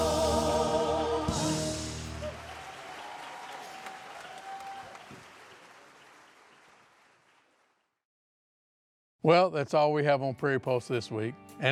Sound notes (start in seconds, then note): 2.3 clapping; 3.7 cheering